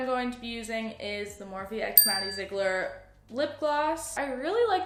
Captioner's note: ding